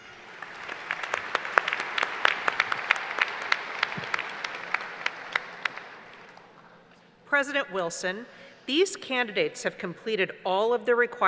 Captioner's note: applause